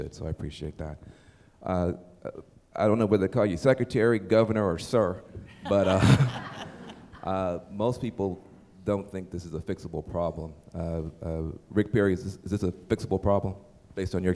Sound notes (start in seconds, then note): 5.4 laughter